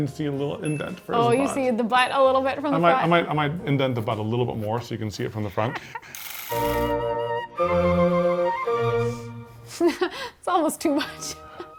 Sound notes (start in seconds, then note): 6.2 device clicking; 11.5 laughing